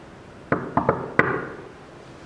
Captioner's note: knocks